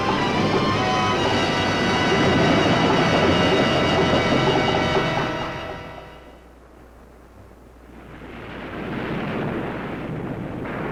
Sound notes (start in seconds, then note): 2.1 waves roaring; 8.0 waves crashing